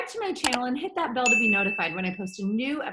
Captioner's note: bell ringing